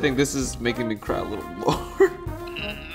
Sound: chuckling

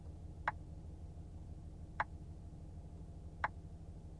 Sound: clicking

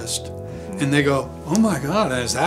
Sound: slaps forehead

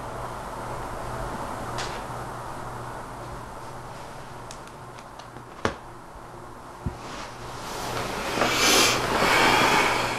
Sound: exhales

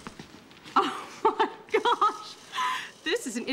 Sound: laughing

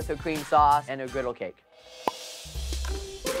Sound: cork pops

